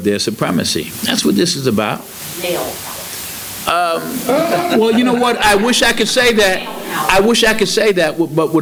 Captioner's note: laughter